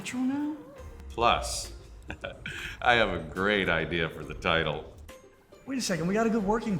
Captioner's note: chuckles